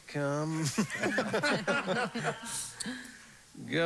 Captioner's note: laughter